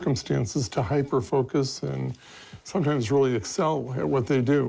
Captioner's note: none